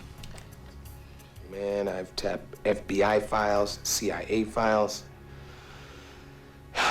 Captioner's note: sighs